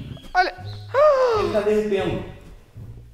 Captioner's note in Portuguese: faz som de surpresa